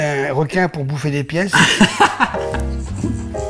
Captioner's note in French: rires